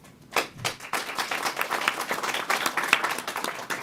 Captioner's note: applause